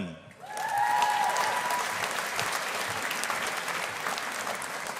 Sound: audience applauding

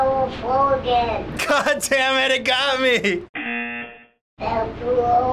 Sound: buzzer

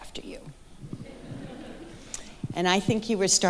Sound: audience laughing

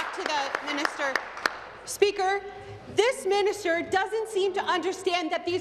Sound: applause

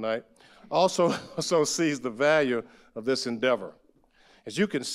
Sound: chuckles

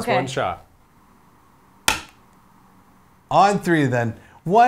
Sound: slap or hit

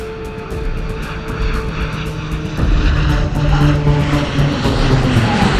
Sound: dramatic music; plane engine whirs; dramatic music continues

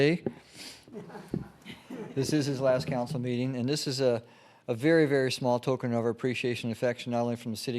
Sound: laughter

